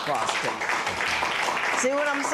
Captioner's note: applause